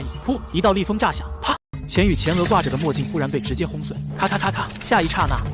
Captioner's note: crack!